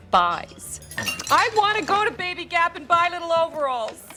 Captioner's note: shouting